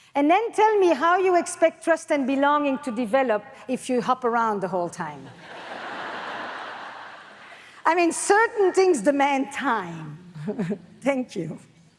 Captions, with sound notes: And then tell me how you expect trust and belonging to develop if you hop around the whole time. (audience laughs) I mean, certain things demand time. (laughs) Thank you.